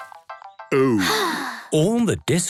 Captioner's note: Peppa sighing